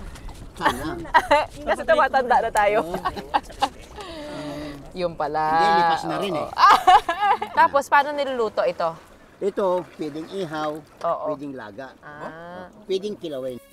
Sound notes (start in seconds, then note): 0.6 laughs